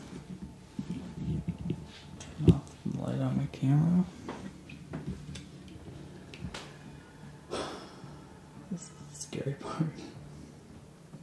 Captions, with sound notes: Turn off the light on my camera. (sighs) This is the scary part.